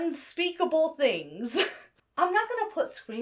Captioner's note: laughs nervously